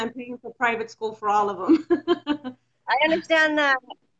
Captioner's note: laughs